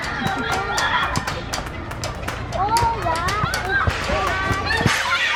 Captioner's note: laughing; kids chattering playfully